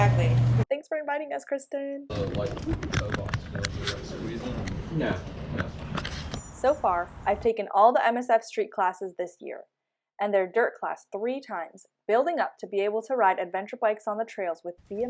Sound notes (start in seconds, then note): 2.1 mumbled chatting